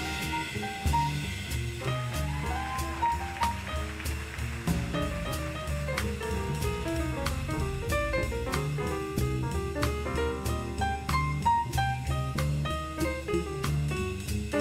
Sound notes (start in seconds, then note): 1.5 audience cheering; 1.5 audience applauding